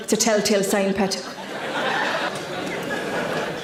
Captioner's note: audience laughs